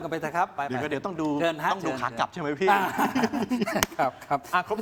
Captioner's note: laughs